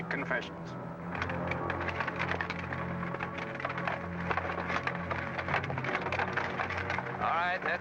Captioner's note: carriage rattling